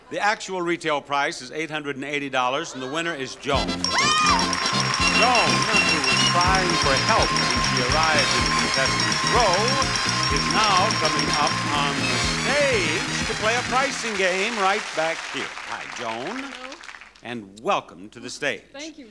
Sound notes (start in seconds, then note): 4.4 bells chiming; 4.4 crowd clapping